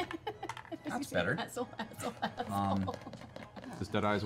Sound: laughs

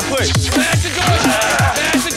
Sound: screaming; furniture breaking

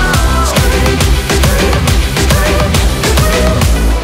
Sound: scream scream scream scream

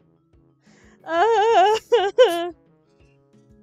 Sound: whining

